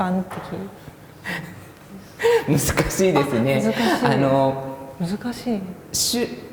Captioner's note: laugh